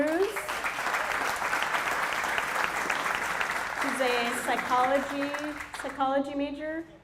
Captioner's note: applause